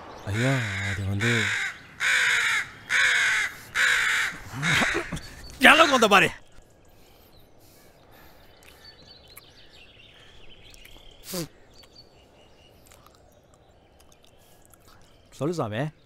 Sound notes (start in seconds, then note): 1.8 crow caws; 10.7 spits